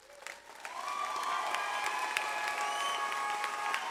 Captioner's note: audience applauds